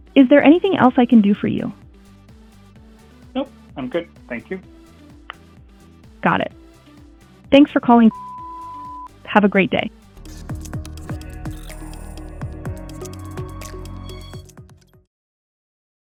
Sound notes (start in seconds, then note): 8.1 machine beeping; 10.2 upbeat music